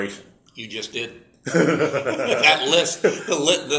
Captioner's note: laugh